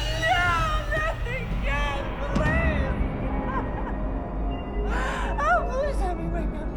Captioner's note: wails